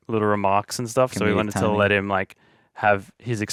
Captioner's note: mumbling